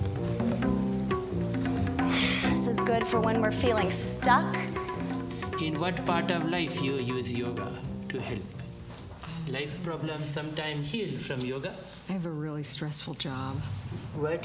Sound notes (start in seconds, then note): 2.0 exhales